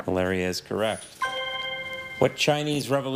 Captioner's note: chime resonating